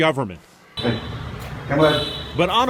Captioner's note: man speaking Vietnamese